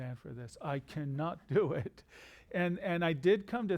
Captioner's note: chuckles